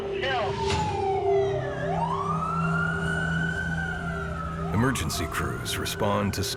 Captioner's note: sirens